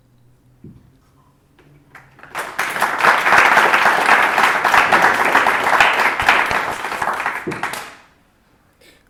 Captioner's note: applause